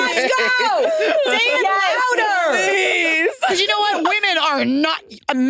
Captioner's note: participants laughing